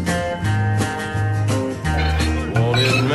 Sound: men chattering

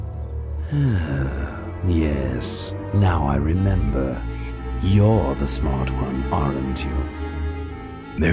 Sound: sighs

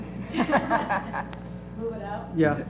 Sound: laugh

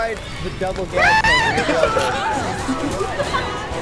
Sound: laughs

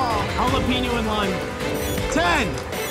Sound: timer beeping

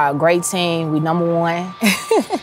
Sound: chuckles

